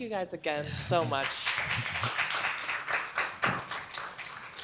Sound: applause

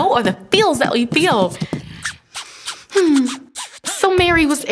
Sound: beatboxing like record scratching

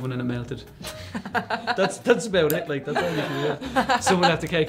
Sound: laughing

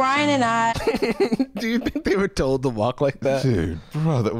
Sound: laughing

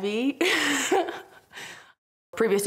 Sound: laughter

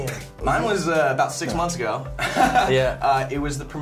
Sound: laughs

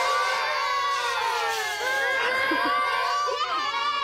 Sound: kids booing; laughs; kids cheer

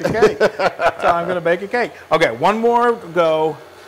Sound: laugh

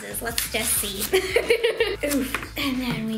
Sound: laughing

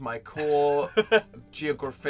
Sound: Phil laughs adorably

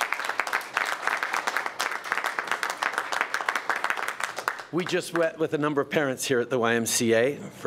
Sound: applause

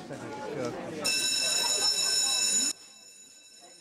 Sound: bell

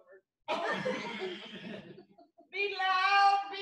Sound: laughter

